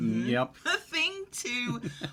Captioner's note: chuckling